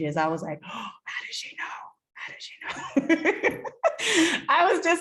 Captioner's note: laughs